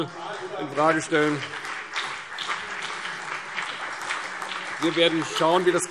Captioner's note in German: Beifall